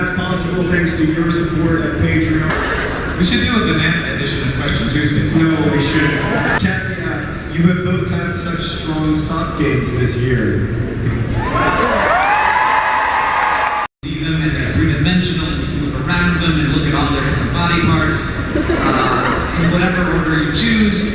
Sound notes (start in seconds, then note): 11.1 crowd cheers for socks